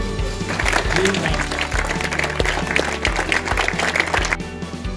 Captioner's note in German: Applaus